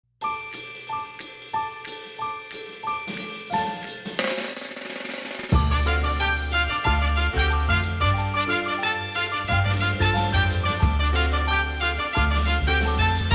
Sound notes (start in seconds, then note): 0.3 upbeat music; 5.5 dramatic sounds